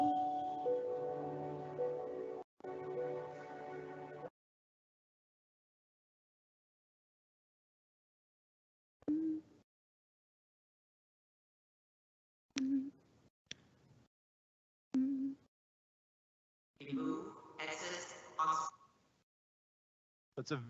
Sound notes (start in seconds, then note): 0.0 somber music; 9.1 mother humming